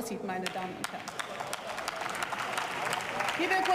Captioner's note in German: Beifall